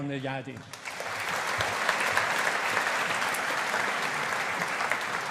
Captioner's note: audience applauding